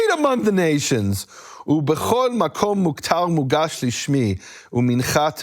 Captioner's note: speaking in foreign language